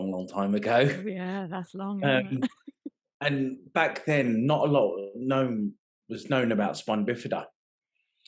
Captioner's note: laughing